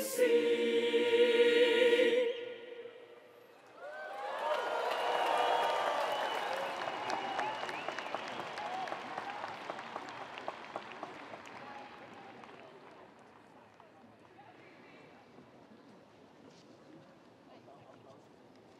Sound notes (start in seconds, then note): 3.7 audience cheering; 3.8 audience applauding